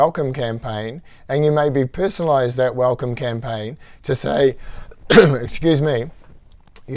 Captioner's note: cough